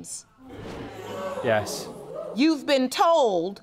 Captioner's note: audience gasps